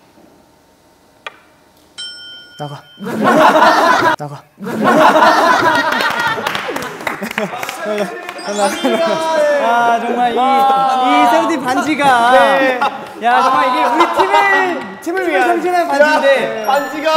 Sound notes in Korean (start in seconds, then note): 2.0 반지 부딪힘